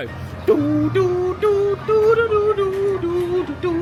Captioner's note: hums